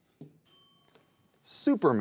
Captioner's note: timer rings